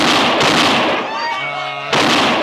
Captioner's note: gunfire